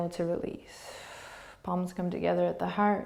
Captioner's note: exhaling